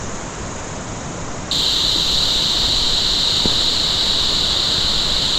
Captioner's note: none